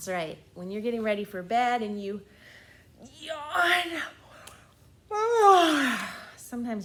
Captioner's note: yawns loudly